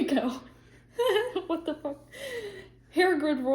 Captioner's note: laughs